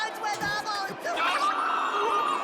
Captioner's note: howls